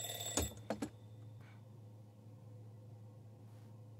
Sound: alarm clock: off

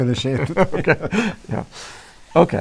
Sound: laughter

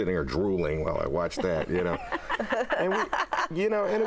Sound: laughter

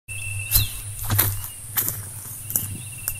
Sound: footsteps

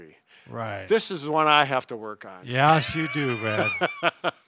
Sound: laughing

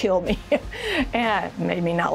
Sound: chuckles

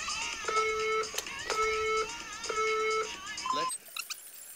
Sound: counter down timer from the phone on screen is heard

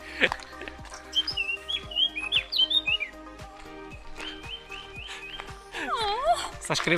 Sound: birds chirping

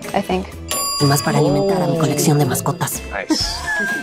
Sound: speaking LATAM Spanish

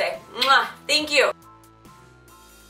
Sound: kiss sound; mellow techno music

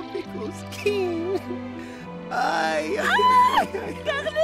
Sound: Carlitos cries; Sophie screams

